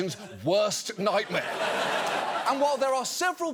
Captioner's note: audience laughs